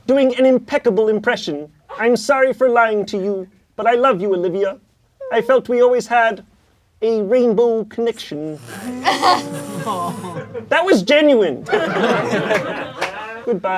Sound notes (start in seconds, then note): 8.7 crowd laughing